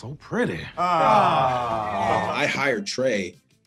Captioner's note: everyone groans